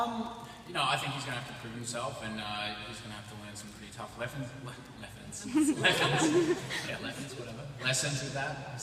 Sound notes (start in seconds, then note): 5.5 laughs